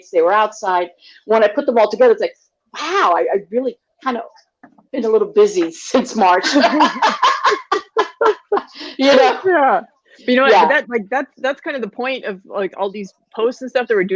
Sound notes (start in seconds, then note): 6.2 laugh